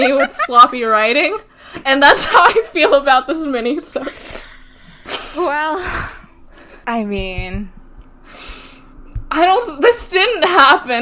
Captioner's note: laughs